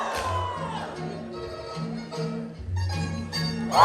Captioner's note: applause